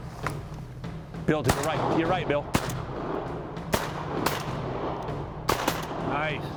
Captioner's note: gun shots